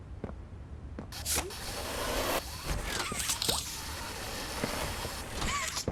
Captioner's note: squeaking